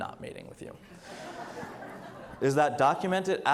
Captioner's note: audience laughs